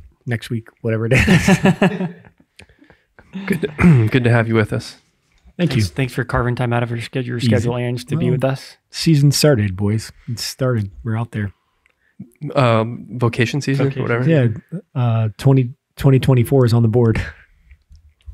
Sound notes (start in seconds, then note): 1.1 all laughing